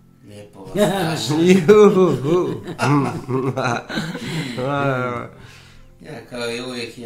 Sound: laughter

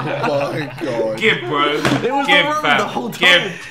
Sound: group laughing

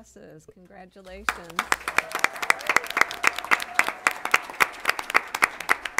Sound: applause

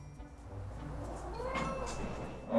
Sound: meow

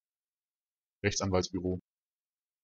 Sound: fast Pronunciation

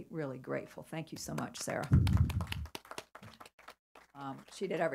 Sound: applause

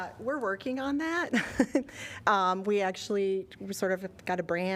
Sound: laughter

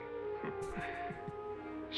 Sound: chuckle

